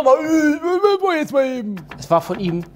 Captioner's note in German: Er murmelt